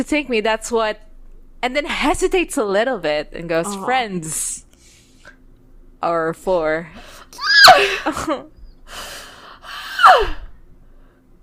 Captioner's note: screams